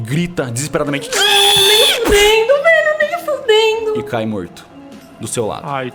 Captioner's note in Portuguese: grito; psht